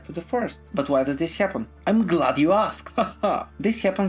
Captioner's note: laughs